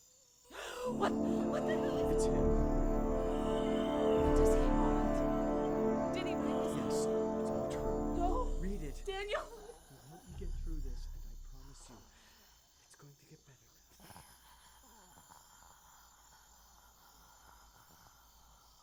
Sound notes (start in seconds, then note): 0.5 Marion gasping; 15.2 gasping